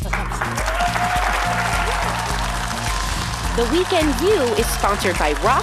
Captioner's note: audience applauds